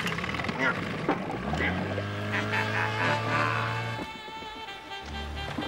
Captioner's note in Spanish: se inicia el bote a motor